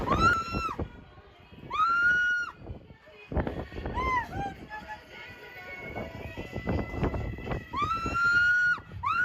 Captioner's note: warning: screaming